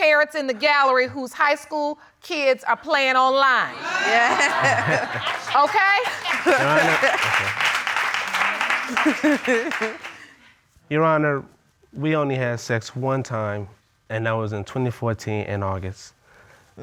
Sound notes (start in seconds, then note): 3.8 audience laughs; 8.2 chuckles